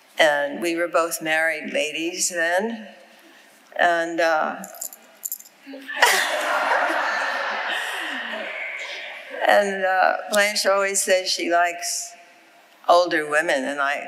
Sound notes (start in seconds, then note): 5.8 chuckles; 5.8 audience laughing